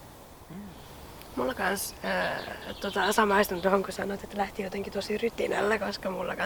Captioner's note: seagull noises intensify; noisy little birds